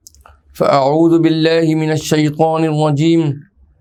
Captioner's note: Arabic